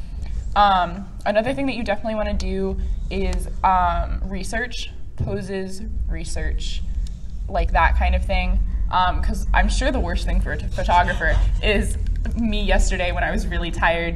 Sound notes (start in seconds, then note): 8.6 whiny